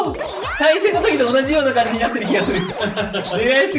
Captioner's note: laughs